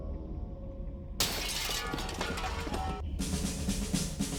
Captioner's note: glass shatters, metal clanks; suspenseful music plays